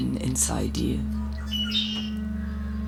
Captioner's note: songbird